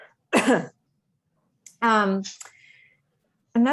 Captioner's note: coughing